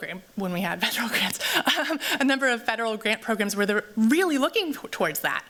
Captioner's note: laughs